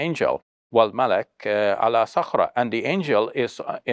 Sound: speaks foreign language

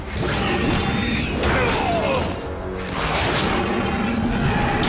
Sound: growling; wincing

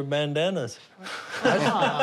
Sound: laughter

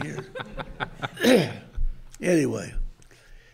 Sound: group chuckles

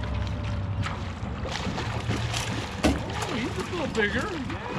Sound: fish splashing

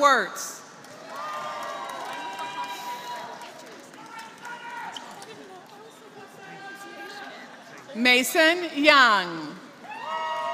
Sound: applause; applause

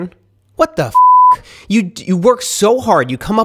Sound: beep

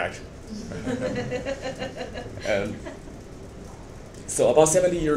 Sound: members of the audience laughing

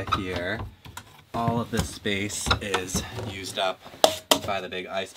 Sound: hand smacking on box

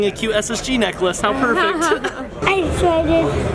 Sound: laughs

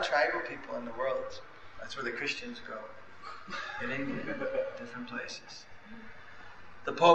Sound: laughter

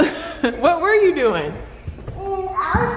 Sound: laughs

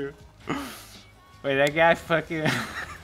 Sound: laughs

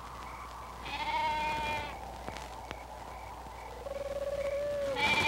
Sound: bleating

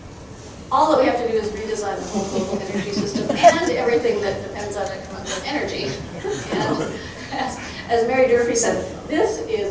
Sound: crowd chuckling

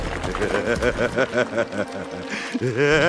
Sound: laughing

